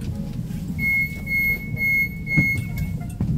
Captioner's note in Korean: 출입문 열림